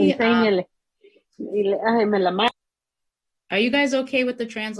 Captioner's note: woman speaking in Spanish